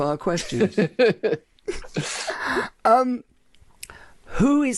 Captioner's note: laughing